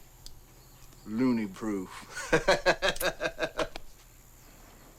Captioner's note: laughs